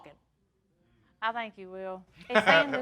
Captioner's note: laughing